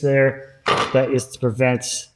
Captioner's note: tool thudding